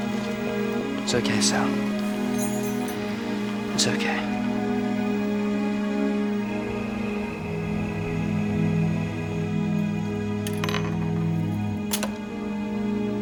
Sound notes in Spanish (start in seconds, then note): 5.9 grillos chirriando; 9.2 música dramática